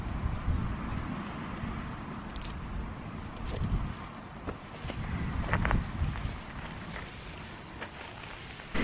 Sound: wind, footsteps

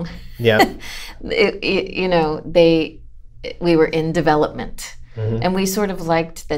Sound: laughter

